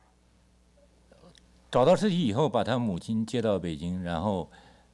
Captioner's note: speaks Mandarin